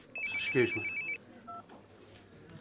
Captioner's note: phone rings